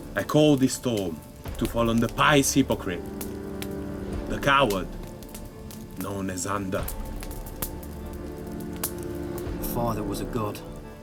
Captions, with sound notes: I call this storm to fall on the pious hypocrite, the coward, known as Ander. (fire crackling) (gentle music) - Your father was a god.